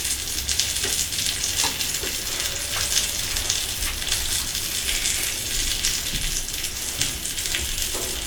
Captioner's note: laughs